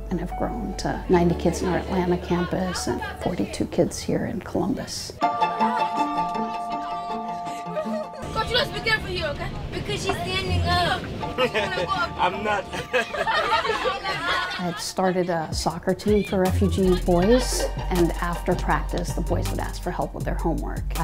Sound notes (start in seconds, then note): 5.2 bright music; 11.4 laughs